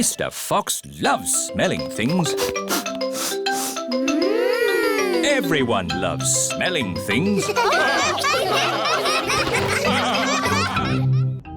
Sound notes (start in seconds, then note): 2.2 all sniffing; 7.2 all laugh